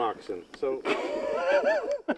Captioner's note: laughter